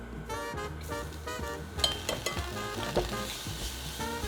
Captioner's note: sizzling